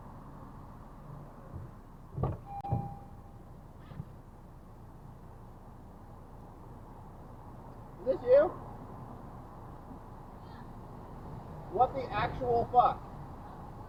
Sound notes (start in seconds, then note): 2.2 door open